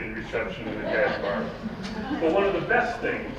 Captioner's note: laughing